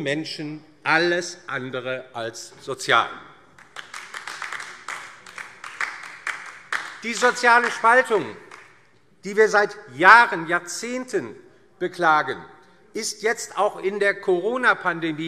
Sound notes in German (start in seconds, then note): 3.5 Beifall DIE LINKE